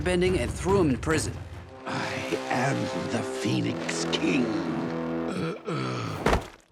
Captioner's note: groaning